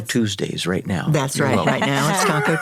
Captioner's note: chuckles